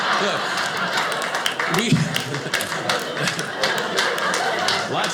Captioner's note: audience laughing